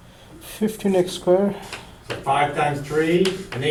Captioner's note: voiceover